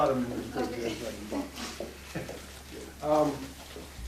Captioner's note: laughing